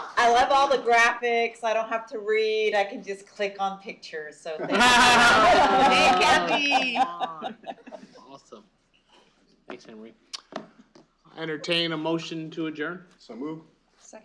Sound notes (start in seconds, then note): 4.6 laughter